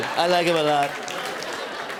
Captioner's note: laughter